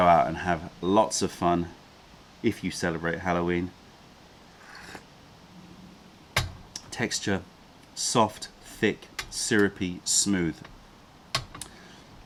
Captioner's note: sips tea